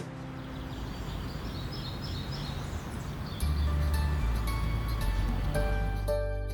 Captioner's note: birds chirping; happy music